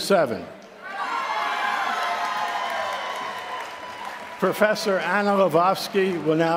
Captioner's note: applause